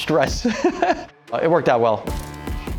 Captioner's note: laughing